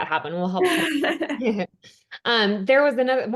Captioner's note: laughing